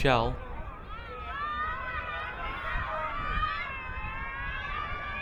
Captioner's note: crowd cheering